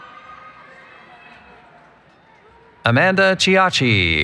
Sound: cheering

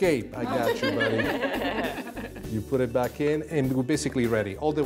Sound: laughter

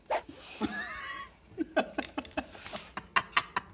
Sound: laughs

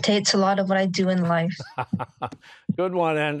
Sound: laughing

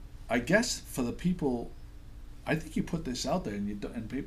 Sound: voiceover

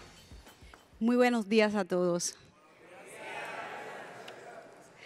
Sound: speaks in Spanish

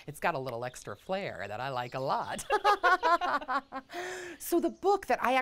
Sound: women laugh

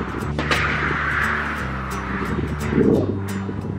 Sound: scraping

